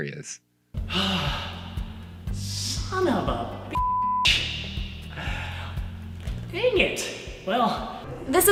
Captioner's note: sighs